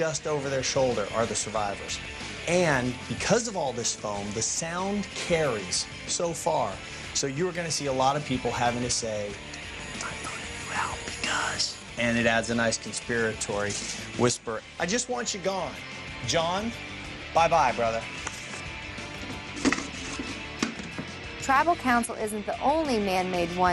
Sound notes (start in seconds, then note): 9.7 whispers